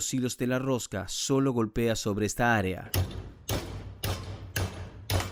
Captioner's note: Se oye el martillo